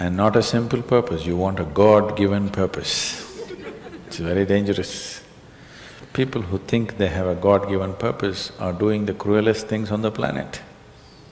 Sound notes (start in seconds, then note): 3.2 laughter